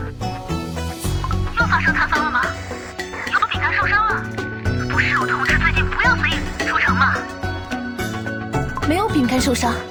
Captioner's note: Static; Static